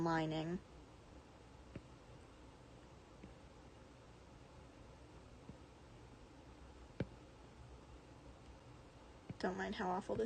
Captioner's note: more aggressive background AC sounds